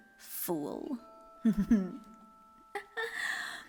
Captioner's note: CATE laughs